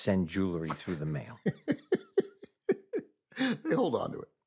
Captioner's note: laughing